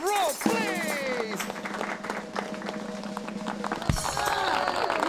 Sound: drum roll, applause

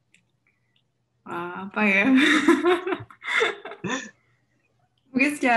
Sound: chuckles

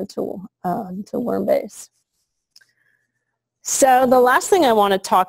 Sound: pause

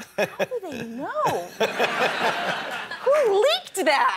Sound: laughs

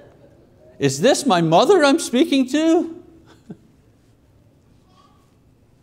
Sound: chuckles

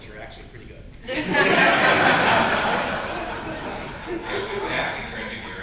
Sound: laughter

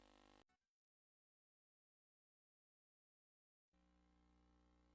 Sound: silence resuming

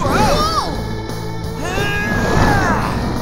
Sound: grunting

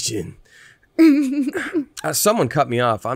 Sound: laughs

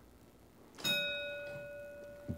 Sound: ding

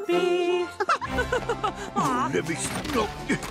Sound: laughing

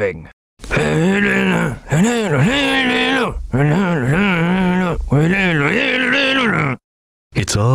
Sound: humming

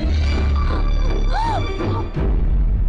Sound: gasps

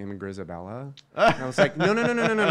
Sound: laughing

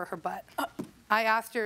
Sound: scoffs

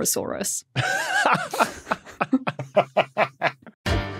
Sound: group laughing

